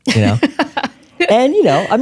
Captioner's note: laughing